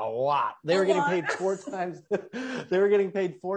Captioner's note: laughs